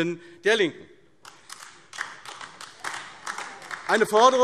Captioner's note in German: Beifall AfD